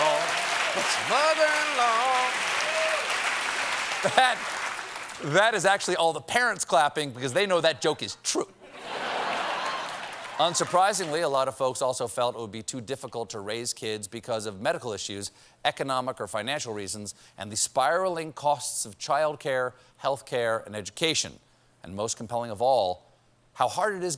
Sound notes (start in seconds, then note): 0.0 cheers and applause; 9.1 cheers and applause